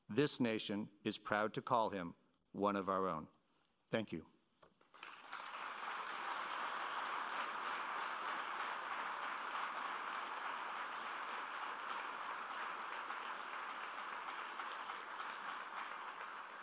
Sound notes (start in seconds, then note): 5.5 applauding